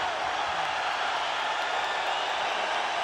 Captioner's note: loud cheering